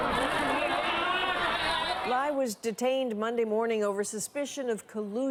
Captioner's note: crowd noise